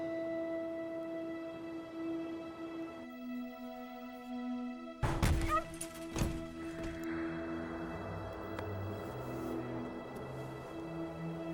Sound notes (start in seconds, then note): 5.0 objects banging; 5.4 animal yelps; 8.5 suspenseful music